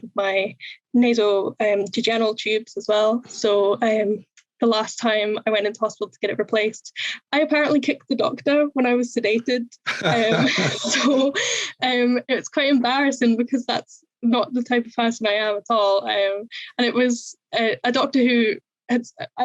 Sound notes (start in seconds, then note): 9.8 laughs